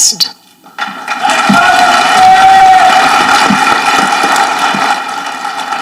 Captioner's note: audience clapping